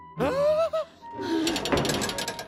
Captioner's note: gasps